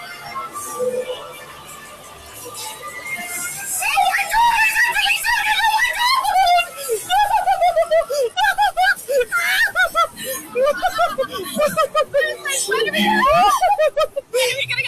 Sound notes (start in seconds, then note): 0.2 spooky music; 6.8 laughs nervously; 10.5 guest laughing; 12.2 laughing